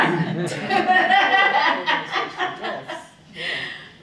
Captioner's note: laughing